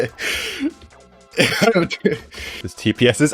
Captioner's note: laughing